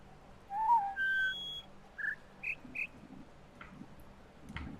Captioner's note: bird chirps four notes; bird warbling ˩˧˩ ˥